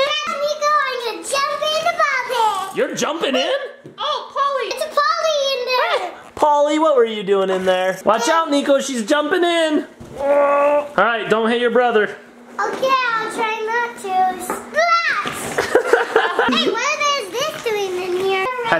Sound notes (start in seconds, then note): 10.0 groans; 15.5 laughs